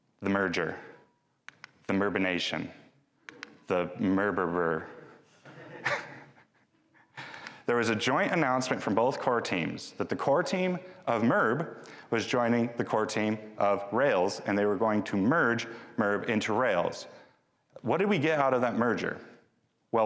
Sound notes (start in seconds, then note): 5.4 chuckles; 5.4 audience chuckling